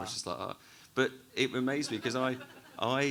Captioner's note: audience laughs